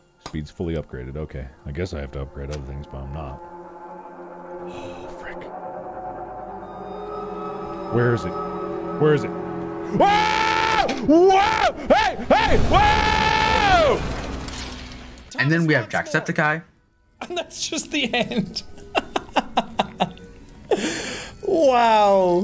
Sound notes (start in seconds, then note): 3.4 train Screech; 20.8 laughs